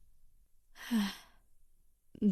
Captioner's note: sighs